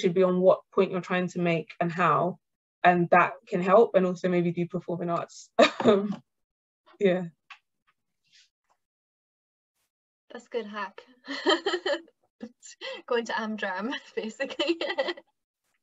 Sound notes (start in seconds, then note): 6.0 laughter; 11.3 laughs